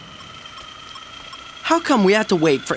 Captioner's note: beeping